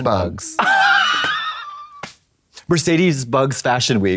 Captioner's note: Katya quakes and slaps